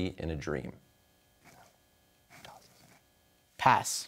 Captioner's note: whispers